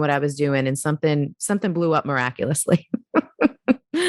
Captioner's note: giggles